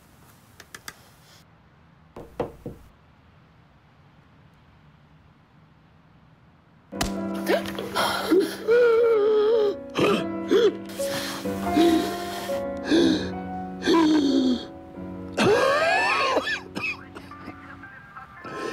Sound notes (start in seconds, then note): 8.2 gasping; 15.3 coughing